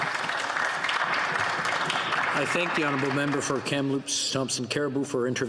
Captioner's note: some Applause